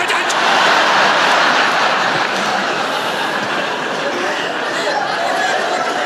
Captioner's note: laughter